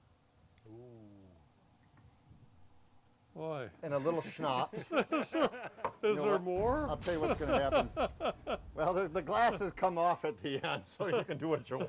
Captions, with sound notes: Oo. - Boy. - And a little schnapps. (both laughing) - Is there more? - I'll tell you what's gonna happen. Well, the glasses come off at the end so you can do what you want.